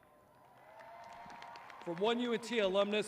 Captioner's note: audience cheering